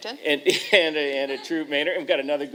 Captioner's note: chuckle